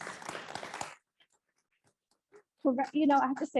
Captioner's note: audience applauds